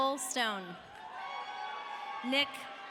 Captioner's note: audience cheering